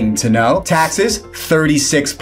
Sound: graphics swish

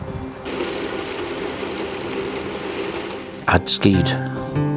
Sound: ski tow whirling

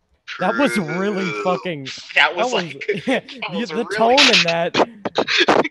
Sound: gasps

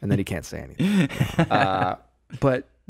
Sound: laughing

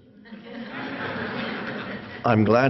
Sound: audience laughs

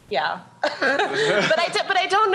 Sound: chuckling

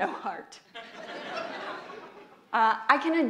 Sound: audience laughs

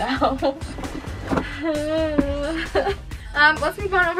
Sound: nervous laughter

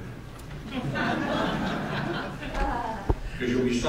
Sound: laughter

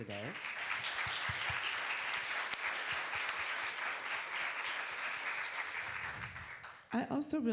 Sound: applause

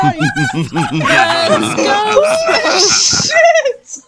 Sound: general panic; evil laughter; panic continues

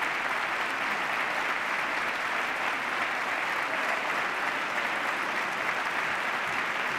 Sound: applause

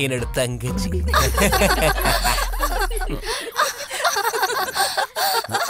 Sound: everyone's laughing

